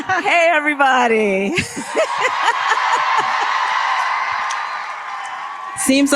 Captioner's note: applause